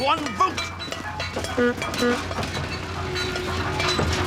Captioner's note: engine clatters, horn beeps